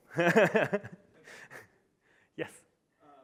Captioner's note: laughing